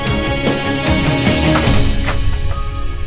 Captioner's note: Door opens